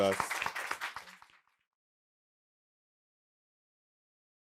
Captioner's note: applause